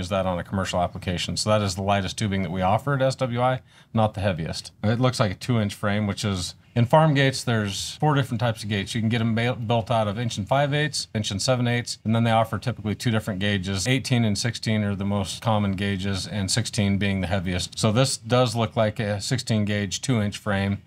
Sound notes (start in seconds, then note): none